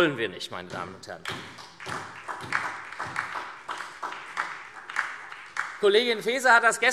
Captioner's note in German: Beifall SPD